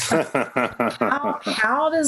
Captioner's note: laughing